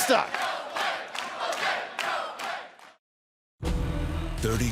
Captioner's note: fans chanting